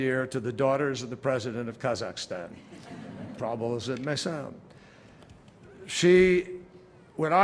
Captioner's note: laughter